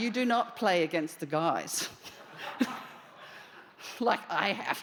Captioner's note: laughter